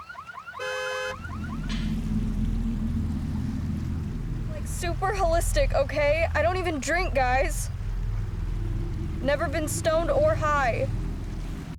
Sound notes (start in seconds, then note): 1.5 wind blows; 8.1 ominous music